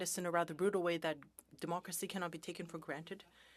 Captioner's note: speaking French